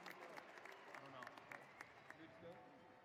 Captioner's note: cheering and applause